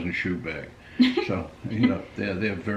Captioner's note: laughing